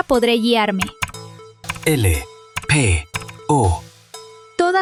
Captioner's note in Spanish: tecleo